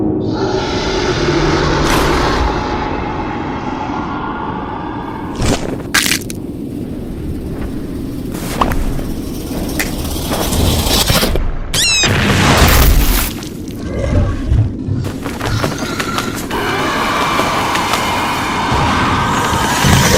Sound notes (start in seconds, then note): 0.2 Female Leech Moth Roar joins in; 3.1 female Leech Moth Roar; 11.7 bat Squeak; 13.7 growling